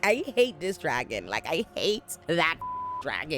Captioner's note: beep